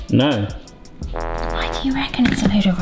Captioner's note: fail trombone honks